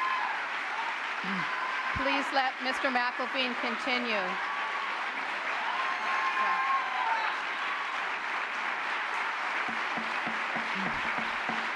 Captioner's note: gavel